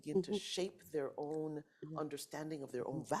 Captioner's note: none